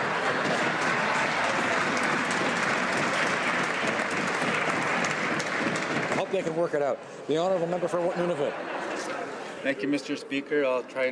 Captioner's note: laughter